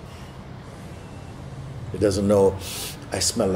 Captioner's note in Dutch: snuift